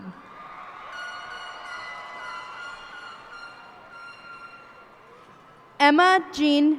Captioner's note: cheers and applause